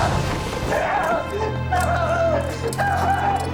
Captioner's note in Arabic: صراخ